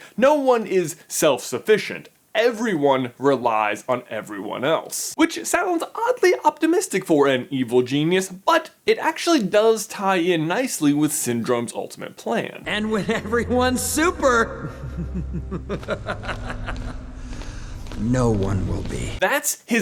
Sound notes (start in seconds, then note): 14.4 evil laugh